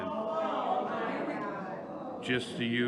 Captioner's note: audience complaining